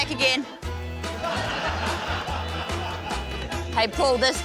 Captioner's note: laughter